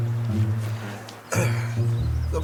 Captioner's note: clears his throat